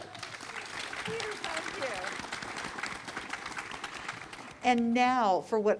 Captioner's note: applause